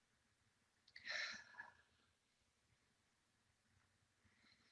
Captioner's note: inhales deeply; exhales sharply